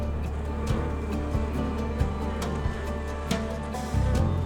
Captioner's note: bees buzz